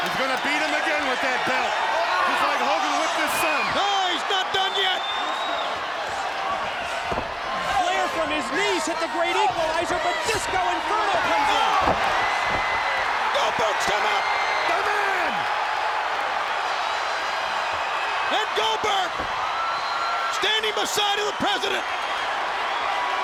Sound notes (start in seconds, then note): 16.1 audience cheering